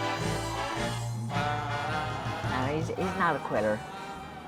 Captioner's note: vocalizing